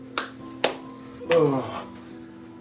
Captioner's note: clap clap; groans